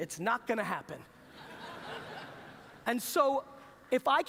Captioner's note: laughter